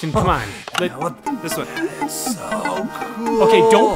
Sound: button clicks

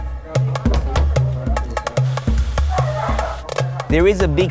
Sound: hawaiian drum music; background chatter, dogs barking and cooking

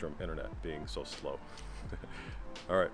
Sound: laughter

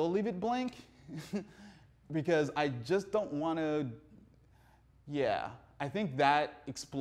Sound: laughs

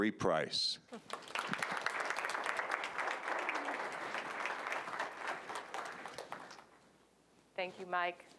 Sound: applause

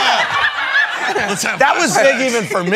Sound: laughter

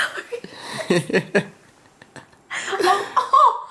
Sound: laughs

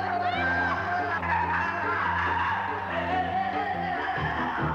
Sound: Leon screaming

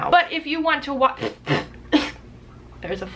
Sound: raspberry

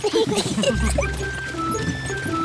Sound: all giggle

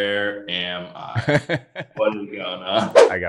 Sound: laughing

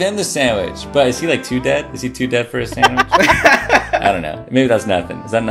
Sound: laughter

